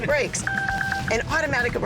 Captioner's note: dinging